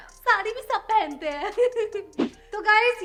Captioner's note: laughter